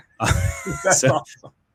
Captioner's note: laughs